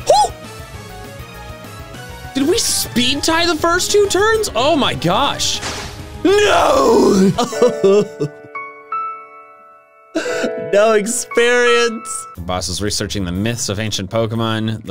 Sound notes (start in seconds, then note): 0.0 exclaims; 6.3 crying